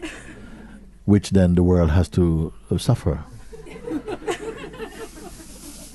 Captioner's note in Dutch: gelach